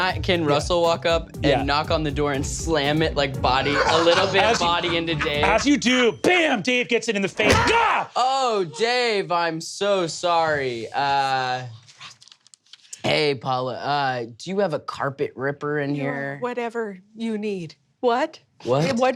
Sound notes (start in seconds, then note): 8.1 yelps